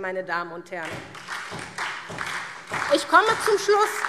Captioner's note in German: Beifall SPD und vereinzelt DIE LINKE